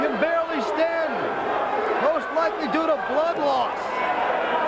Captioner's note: crowd chatter